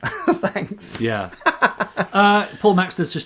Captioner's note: laughing